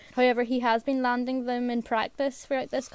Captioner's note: none